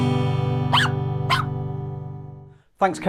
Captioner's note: dog barking